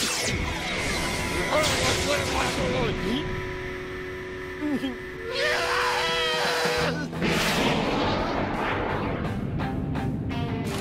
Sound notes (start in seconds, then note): 5.2 screaming, whistle blowing